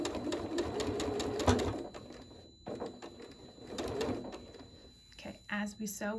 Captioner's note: sewing